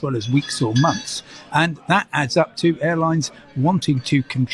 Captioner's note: cash register dings